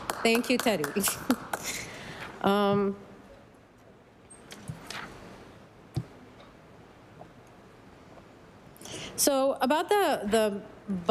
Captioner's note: applause